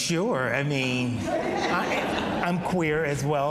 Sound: audience laughs

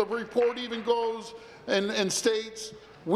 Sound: none

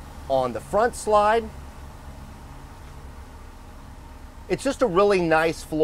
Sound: air hissing

